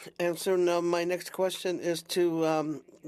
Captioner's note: speaking Indigenous Language